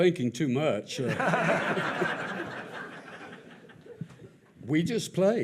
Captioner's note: audience laughs